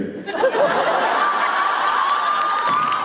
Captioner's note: laughter; applause